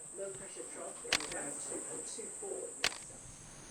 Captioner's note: shutter clicking